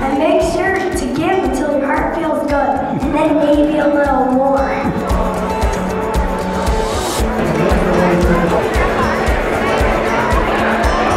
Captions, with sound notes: - And make sure to give till the heart feels good and maybe a little more. (crowd chatting)